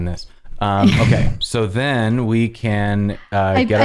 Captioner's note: laughter